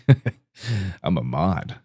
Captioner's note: inhales